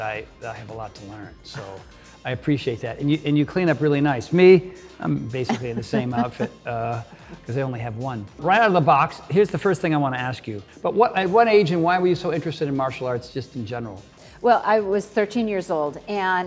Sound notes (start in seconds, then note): 2.5 Cynthia chuckles; 5.4 Cynthia laughs